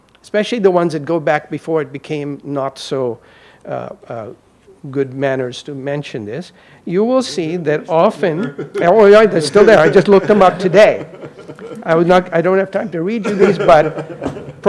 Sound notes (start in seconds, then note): 7.9 faintly speaking; 11.1 laughing